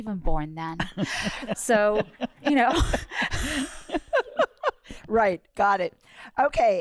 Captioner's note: laughter